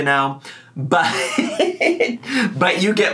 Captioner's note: laughs